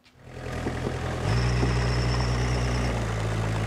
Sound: tractor rumbles

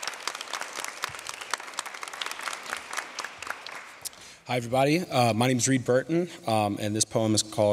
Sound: applause

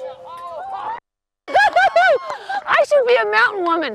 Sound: clapping

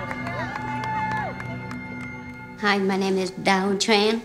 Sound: cheering

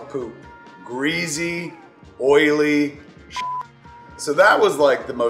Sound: beep

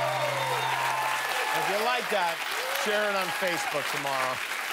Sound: cheers and applause

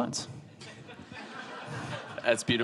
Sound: audience laughing

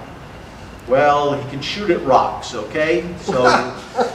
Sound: audience laughter

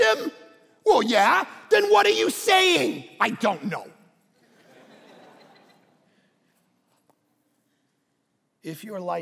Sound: congregation laughing

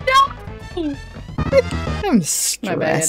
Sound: loud failure sound

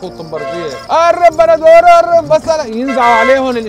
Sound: mimicking the shoutings of street vendors

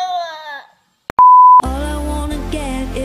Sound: beep

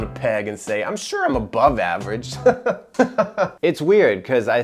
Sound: laughs

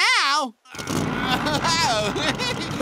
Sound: chuckling

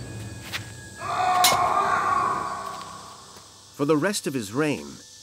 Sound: man wailing

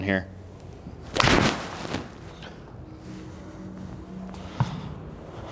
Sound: ball hitting screen

